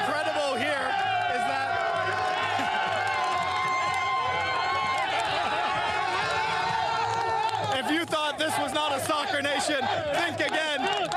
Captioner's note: applause